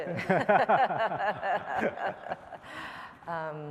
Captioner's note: laughter